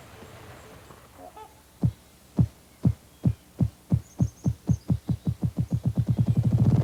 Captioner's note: ruffed grouse sounds